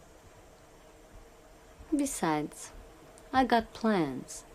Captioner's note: none